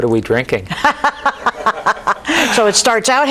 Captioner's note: laughs